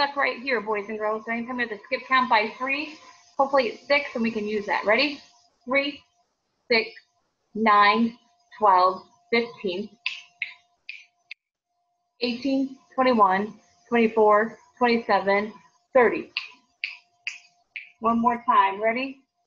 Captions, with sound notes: boys and girls ain't come to skip count by three. Hopefully it sticks and we can use that ready? Three, six, nine, twelve, fifteen. (fingers snapping) eighteen, twenty one, twenty four, twenty seven, thirty. (fingers snapping) One more time ready?